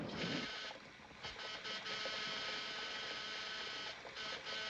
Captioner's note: buzzing